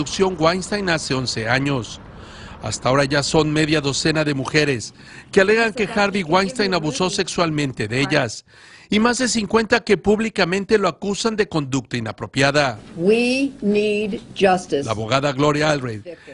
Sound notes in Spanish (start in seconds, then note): 2.5 habla en ingés